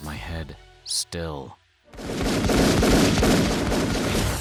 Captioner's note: gunshots